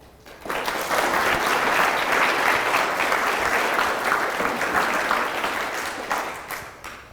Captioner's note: applause